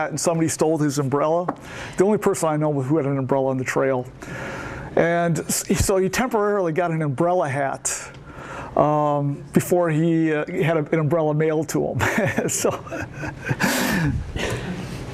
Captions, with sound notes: and somebody stole his umbrella, the only person I know who had an umbrella on the trail. And so he temporarily got an umbrella hat before he had an umbrella mailed to him. So... (laughs)